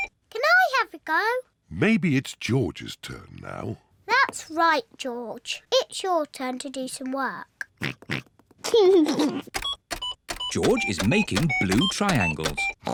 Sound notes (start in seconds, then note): 7.7 computer beeping; 7.7 oinks and giggles